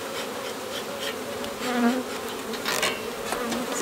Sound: puffs

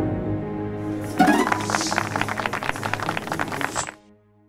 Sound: applause

